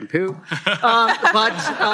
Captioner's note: laughter